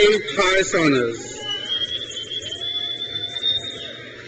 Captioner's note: crowd cheers